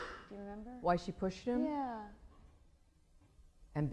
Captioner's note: none